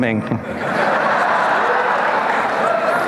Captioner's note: crowd laughs